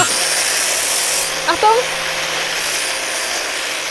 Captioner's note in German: Maschinenlärm